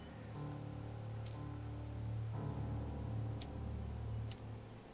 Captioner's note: lighter clicking